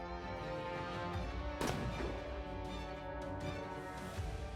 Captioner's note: bang